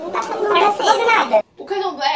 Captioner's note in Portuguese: voz modificada para tom engraçado